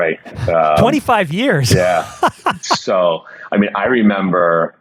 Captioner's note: laughs